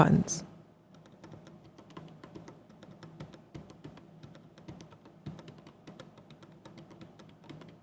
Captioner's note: keyboard clicking